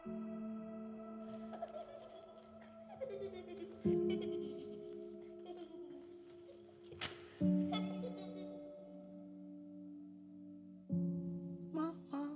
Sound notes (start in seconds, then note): 3.3 child laughing